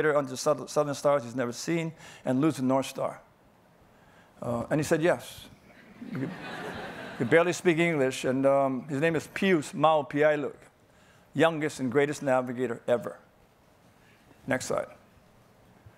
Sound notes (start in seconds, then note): 5.8 audience laughing